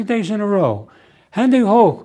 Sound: german

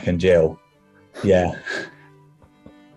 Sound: chuckling

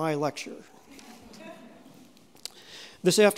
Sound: audience chuckling

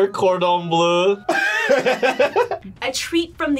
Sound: laughs

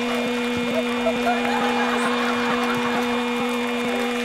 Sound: cheers and applause; laughter

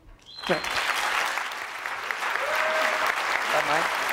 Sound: cheers, applause

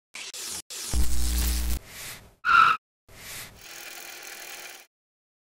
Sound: gear noises, upbeat music plays

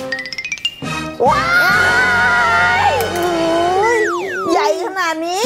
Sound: scream

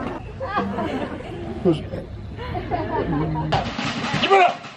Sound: laughing; cheering; yelling

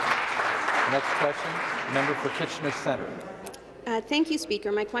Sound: some Applause

